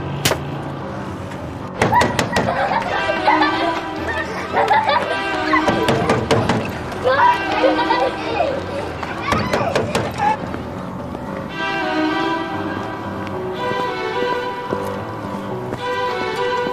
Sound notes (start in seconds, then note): 1.8 door knocking; 3.0 kids playing sound; 5.6 door knocking; 9.3 door knocking